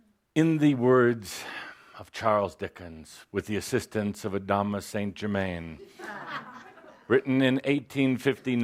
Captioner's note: laughter